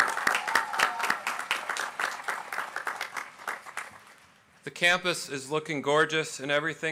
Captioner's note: applause